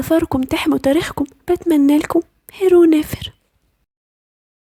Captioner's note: beautiful day in ancient egyptian language